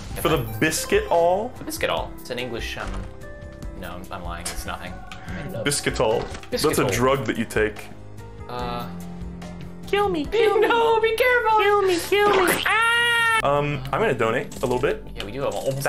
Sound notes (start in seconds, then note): 10.0 tiny voice; 12.2 cartoon splat sound effect